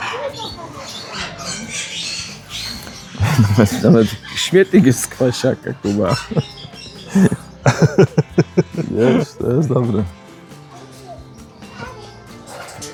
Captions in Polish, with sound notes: Nawet śmietnik jest z kwasiaka. Kuba [śmiech] jest to jest dobre